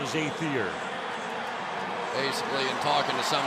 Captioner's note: pa announcement